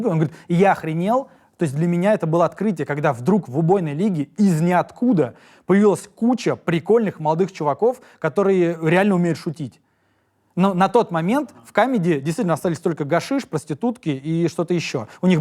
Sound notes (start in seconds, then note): none